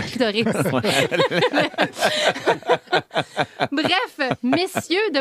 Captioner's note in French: rires